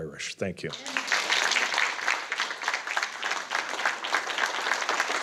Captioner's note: audience applauding